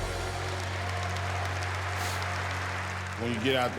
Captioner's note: audience clapping